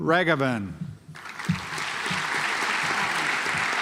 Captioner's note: audience applauds